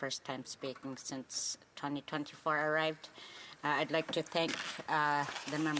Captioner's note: speaking alternate language